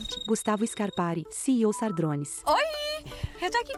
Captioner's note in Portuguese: Toque de celular